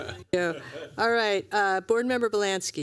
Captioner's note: laughter